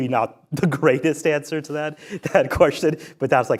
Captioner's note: laughs